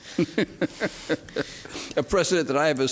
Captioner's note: delighted chuckling